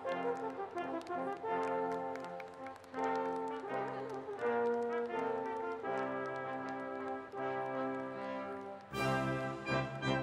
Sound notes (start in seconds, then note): 2.9 applause